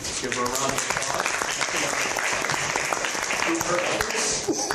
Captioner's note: applause